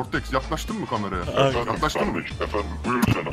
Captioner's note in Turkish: Kalın Ses Tonu